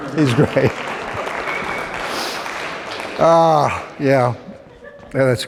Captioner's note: applause